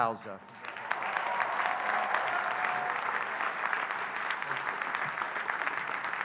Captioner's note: audience applauding and cheering